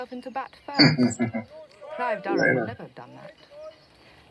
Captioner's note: chuckling